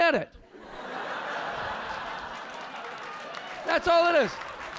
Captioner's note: audience laughing